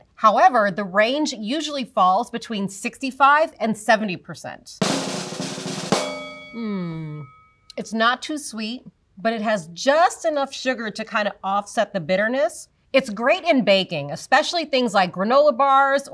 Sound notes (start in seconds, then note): 4.8 drum roll; 5.9 bell dings